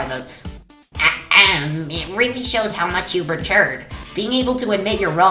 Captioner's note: ahem